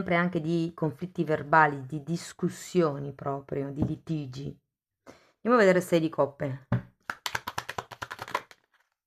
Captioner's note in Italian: Applauso